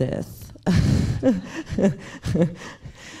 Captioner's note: laughs